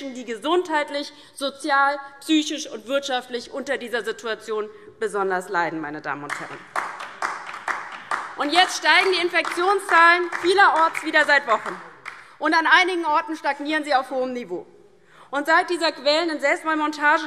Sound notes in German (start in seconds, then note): 6.2 Beifall DIE LINKE